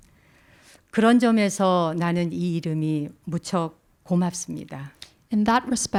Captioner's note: speaking in Korean